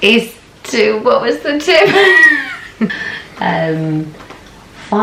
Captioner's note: laughs